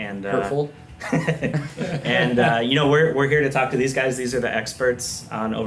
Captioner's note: laughs